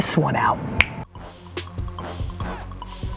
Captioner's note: snaps fingers; upbeat hip hop music